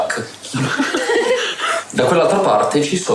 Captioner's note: laughs